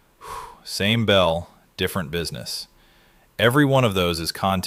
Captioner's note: exhales